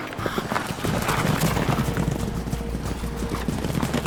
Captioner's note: horses running